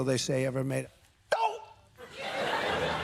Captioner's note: exclaims; laughter